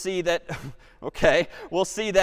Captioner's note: chuckles